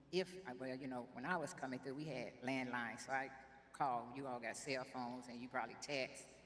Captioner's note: none